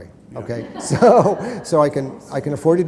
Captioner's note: laughter